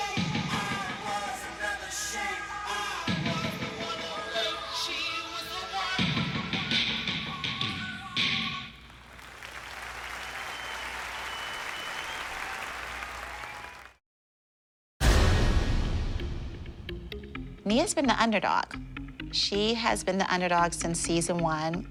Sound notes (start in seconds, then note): 7.8 song ends; 8.8 applause